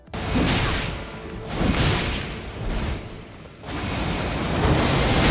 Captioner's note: electric current sounds